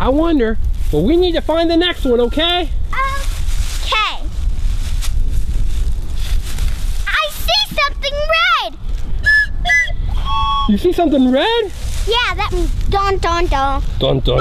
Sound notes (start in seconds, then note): 9.2 blowing whistles